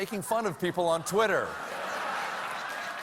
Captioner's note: applause